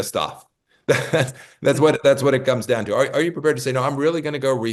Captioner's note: laugh